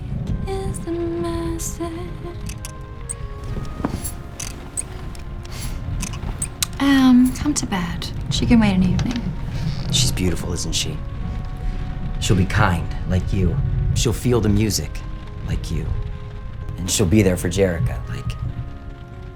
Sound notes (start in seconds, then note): 2.4 gears and tooling sounds